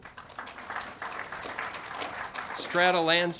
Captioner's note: audience applauding